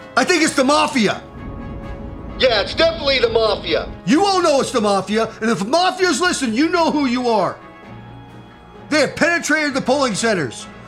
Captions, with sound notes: I THINK IT'S THE MAFIA! (radio) Yeah, it's definitely the Mafia! (radio) You all know it's the Mafia, and if the Mafia's listening, (radio) you know who you are! (radio) They have penetrated the polling centers,